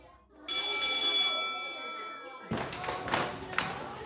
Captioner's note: bell ringing